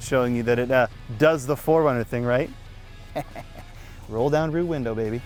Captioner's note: laughs